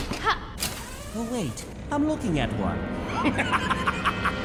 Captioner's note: laughing